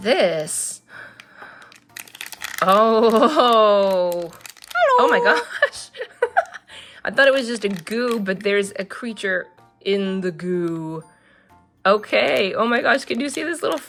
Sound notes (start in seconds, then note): 3.3 tiny voice; 4.8 laughs